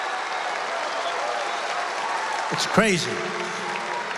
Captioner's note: applause